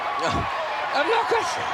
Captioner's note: laugh